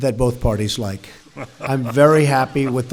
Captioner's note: laughter